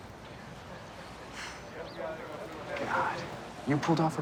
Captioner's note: sighs